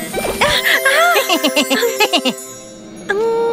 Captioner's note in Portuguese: Risos